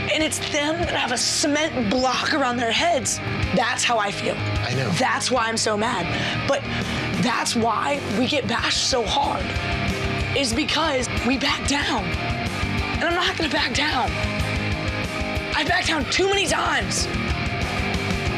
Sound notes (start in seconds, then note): none